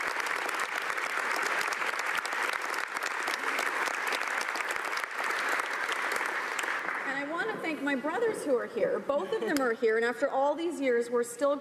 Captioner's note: applause